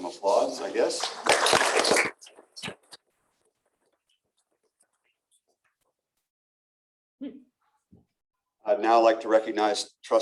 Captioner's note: applause